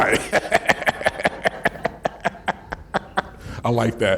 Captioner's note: laughing